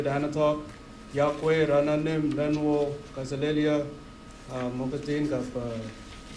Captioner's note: speaking in foreign language